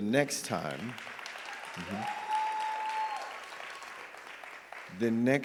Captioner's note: audience applauding and cheering